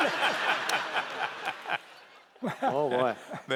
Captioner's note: laughter